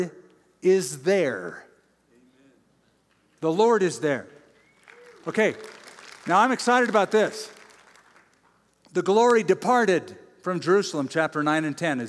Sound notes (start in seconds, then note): 4.3 applause